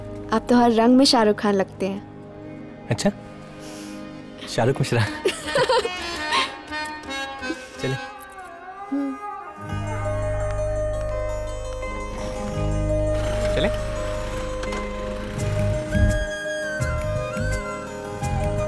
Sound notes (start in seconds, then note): 5.2 Laughs